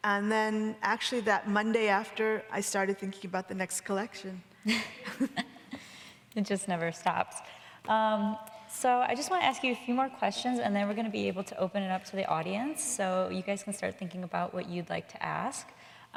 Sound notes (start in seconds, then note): 4.6 both chuckling